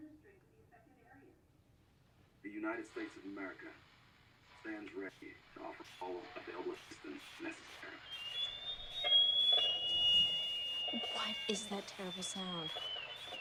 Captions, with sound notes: The United States of America [static] stands ready to offer assistance all available citizens necessary. [loud piercing noise] What is that terrible sound?